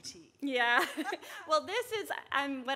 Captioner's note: chuckles